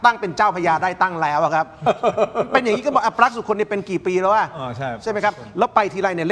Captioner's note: laughs